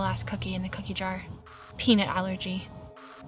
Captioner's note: static crackles; static crackles